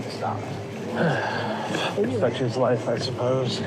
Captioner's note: sighs